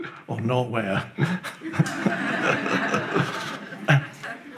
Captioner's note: audience laughs